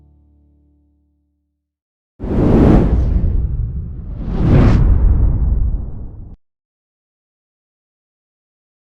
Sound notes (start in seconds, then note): 2.2 wind gusts